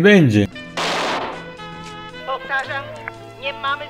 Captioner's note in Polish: strzały z pistoletu